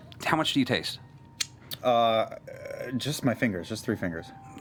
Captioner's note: lip smacking